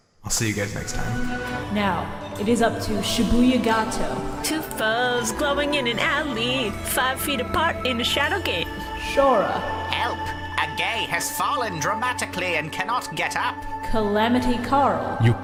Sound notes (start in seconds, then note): 4.4 singing; 9.9 Marik voice